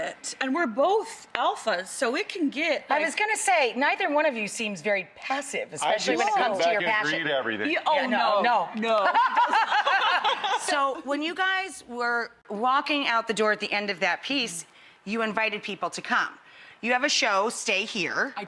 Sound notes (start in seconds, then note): 8.8 laughter